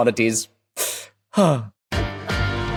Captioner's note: heavy sigh